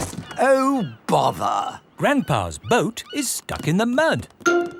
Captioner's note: none